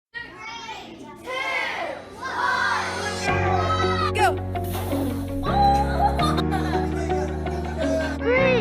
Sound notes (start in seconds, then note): 0.2 kids shouting